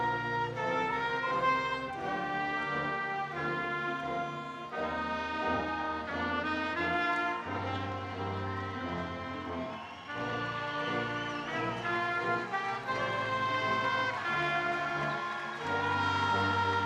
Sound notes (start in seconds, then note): 10.5 attendees cheering